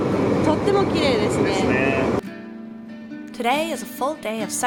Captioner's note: speaking Japanese